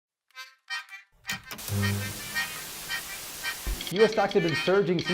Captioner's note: bouncy music; static buzzes